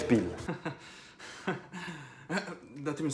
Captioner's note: hysterical laughter